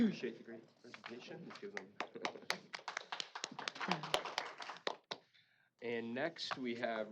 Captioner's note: applause